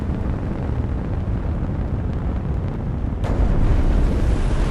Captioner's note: engine rumbling